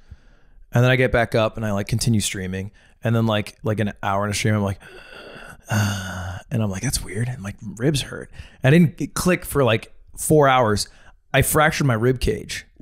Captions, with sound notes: And then I get back up and I continue streaming. And like an hour into stream, I'm like, (wheezes), and I'm like, "That's weird. My ribs hurt." It didn't click for like four hours. I fractured my ribcage.